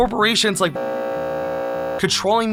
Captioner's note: buzzer